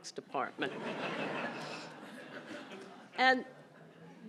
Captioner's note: laughter